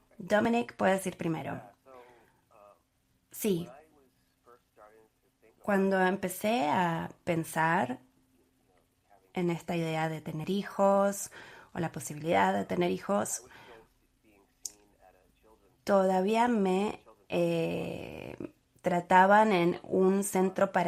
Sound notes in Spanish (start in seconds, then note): 4.1 a través de intérprete